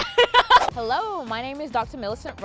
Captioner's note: laughs